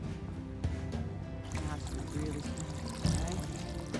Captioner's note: muted chatter